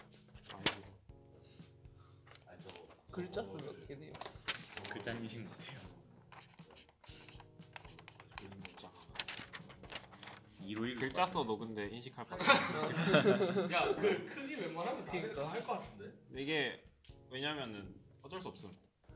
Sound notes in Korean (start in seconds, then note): 6.1 글자 쓰는 소리; 12.3 웃음